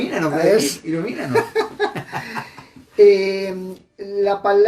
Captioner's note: laughs